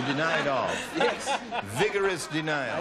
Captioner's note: laughter